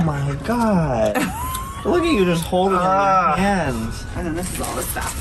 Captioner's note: nonchalant Laughter